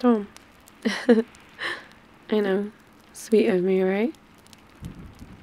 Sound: laughs

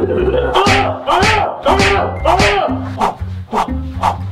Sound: laughing; smacking sounds

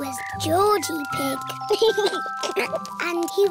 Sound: giggles

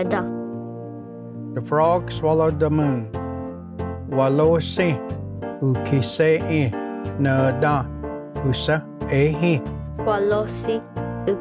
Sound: repeats in Cherokee

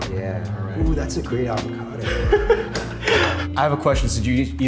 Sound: laughs

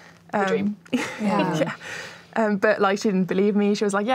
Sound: laughs

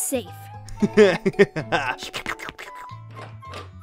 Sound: slurping noises

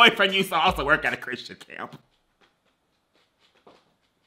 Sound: laughs

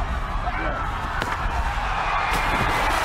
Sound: body slams; water splashes

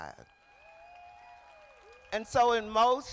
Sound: crowd applauding

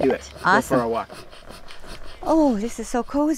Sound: pump hissing

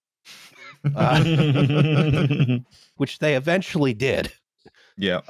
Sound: laughter

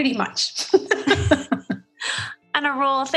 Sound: laughs

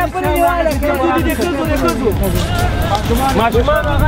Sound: non-Hungarian talking

